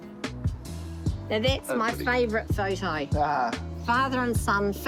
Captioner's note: laughs